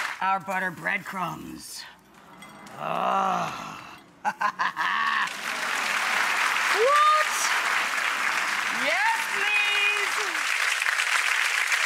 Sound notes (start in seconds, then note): 2.3 groans; 4.2 laughs; 4.9 audience applauding